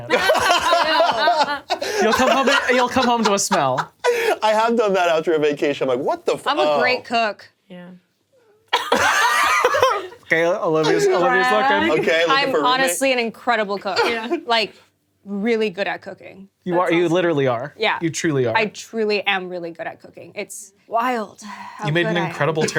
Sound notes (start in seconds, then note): 0.1 laughing; 8.7 laughing